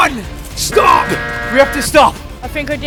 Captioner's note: timer sound effect